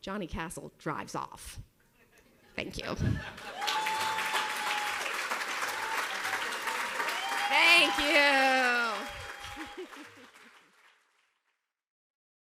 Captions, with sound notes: Johnny Castle drives off. Thank you. (audience cheers and applauds) Thank you! (laughs)